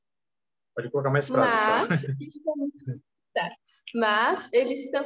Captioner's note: speaking portuguese